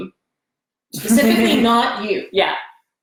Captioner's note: laughs